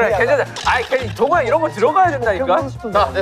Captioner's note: arguing